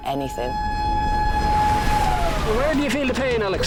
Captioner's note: alarm blaring